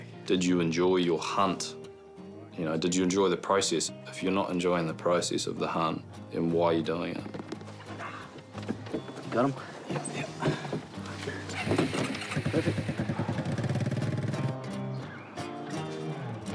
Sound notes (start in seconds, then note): 11.2 quad bike starts; 14.3 pensive guitar music